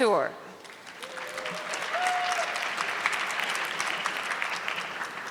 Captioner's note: audience clapping